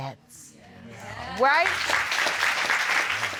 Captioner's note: applause